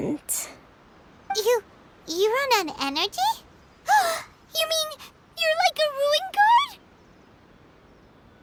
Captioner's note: gasp